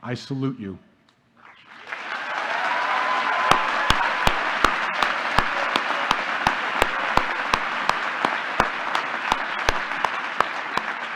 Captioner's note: applause